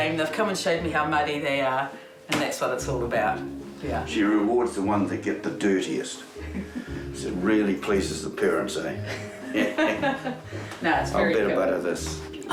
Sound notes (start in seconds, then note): 6.4 chuckles; 9.0 both chuckle